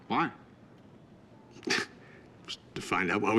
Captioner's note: chuckles